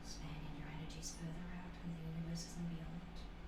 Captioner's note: none